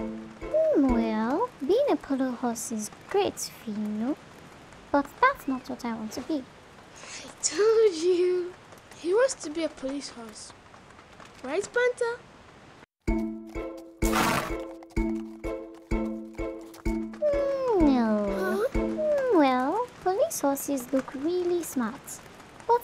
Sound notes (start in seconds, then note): 13.0 bouncy music; 14.0 horse snorting